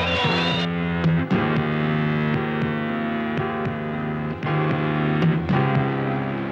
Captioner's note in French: cris de protestations d'un groupe de manifestants